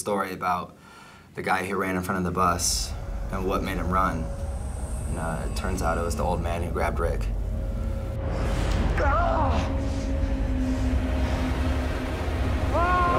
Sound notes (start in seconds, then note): 4.0 guard screaming; 4.0 suspenseful music